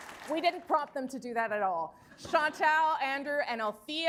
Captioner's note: cheers and applause